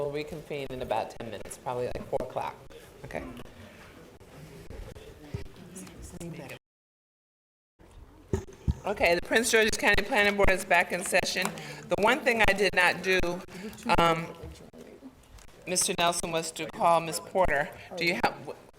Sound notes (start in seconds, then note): 4.5 quiet chatter